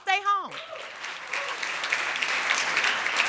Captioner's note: audience applauds